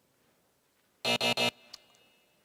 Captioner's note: buzzing